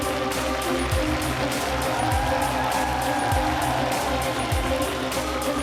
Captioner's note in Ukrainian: оплески